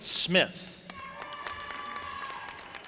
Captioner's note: audience applauding and cheering